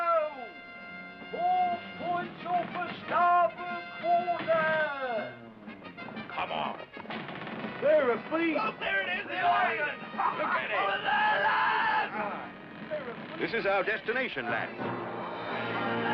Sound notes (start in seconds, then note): 11.8 men shouting